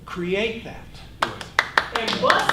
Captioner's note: clapping